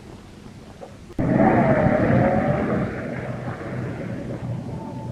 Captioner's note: engine rumbling